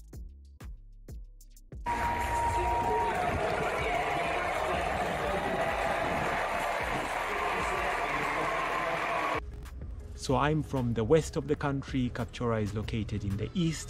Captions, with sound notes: (Cheers and applause) So I'm from the west of the country, Kapchorwa is located in the east.